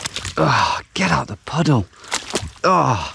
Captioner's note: groans